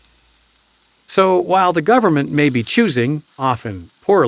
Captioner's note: voiceover